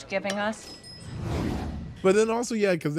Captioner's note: air whooshing